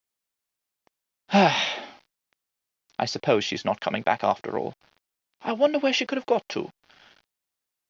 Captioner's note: sigh